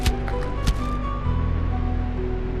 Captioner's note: blow lands